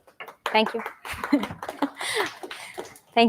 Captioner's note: applause